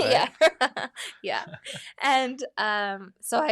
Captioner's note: laughs